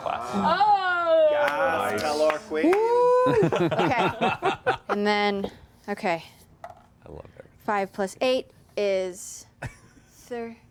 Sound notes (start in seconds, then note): 3.2 laughter